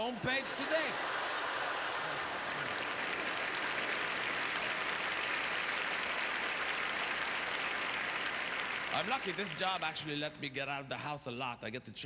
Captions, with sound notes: the home page today? (Applause) I'm lucky. This job actually let me get out of the house a lot.